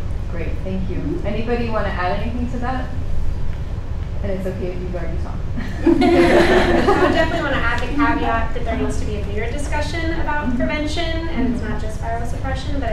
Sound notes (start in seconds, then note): 5.6 participants laughing